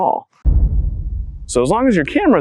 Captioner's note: thud